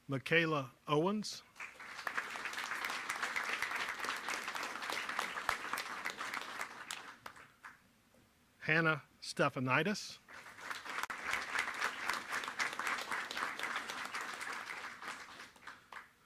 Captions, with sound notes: Michaela Owens. (applause) Hannah Stephanites. (applause)